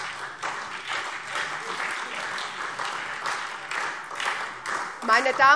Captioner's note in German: Beifall SPD